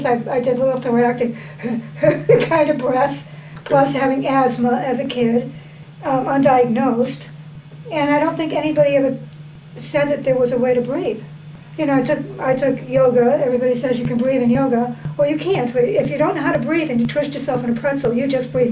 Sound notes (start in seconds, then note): 1.3 gasp gasp